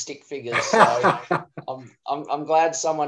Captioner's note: laughs